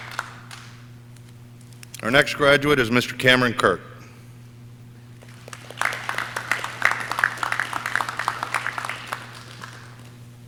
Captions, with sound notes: Our next graduate is Mr. Cameron Kirk. (audience clapping)